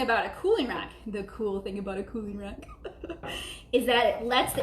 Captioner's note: laughing